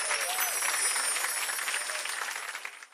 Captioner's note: chimes